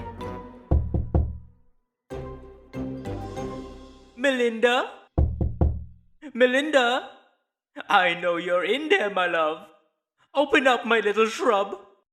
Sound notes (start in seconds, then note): 0.7 knocking on door